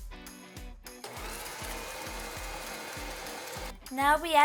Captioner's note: mixer whirring